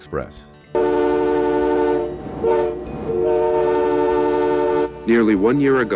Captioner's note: train sounding